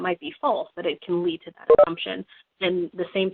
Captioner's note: beeping